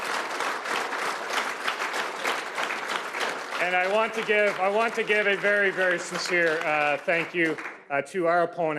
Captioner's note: cheers and Applause